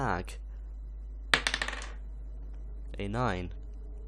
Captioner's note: rolls die